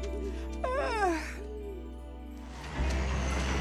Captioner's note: yawns